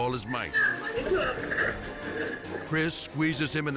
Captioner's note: dramatic music; both yelling